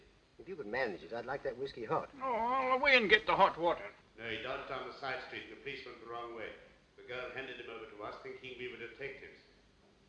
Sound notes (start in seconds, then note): none